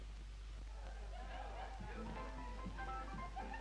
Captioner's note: distant laughter and chatter; peppy piano music